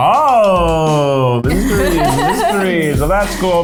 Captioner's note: laughs